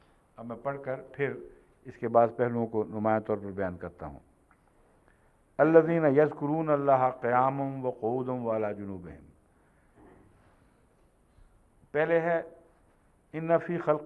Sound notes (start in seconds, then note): 5.5 Arabic